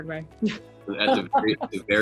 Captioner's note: laughs